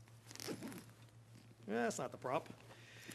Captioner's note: metal zipping